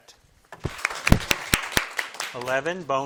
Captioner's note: crowd claps